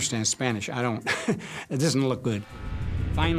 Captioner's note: chuckles